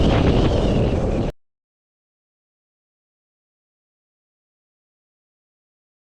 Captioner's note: background noise stops